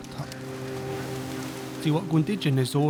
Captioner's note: waves crashing, birds calling